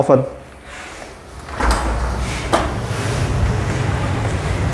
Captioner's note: door clicking